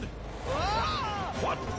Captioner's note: Fiddleford shouts